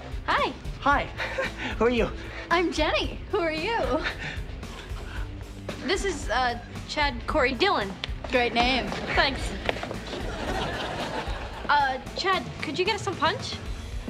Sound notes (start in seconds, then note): 10.0 audiences laughs